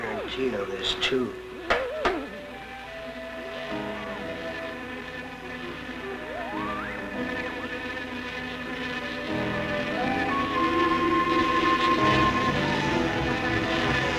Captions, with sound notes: - Guarantee on this too. (buzzing) (whistling) (buzzing)